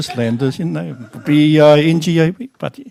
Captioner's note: laughter